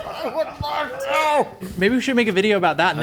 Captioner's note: everyone laughing; laughing